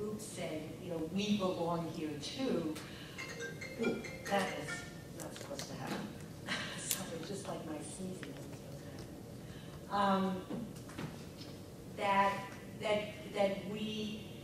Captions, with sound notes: groups saying, "We belong here, too." (phone ringing) Ooh, that is not supposed to happen. Sorry, just like my sneezing isn't supposed to happen. That we did think a lot about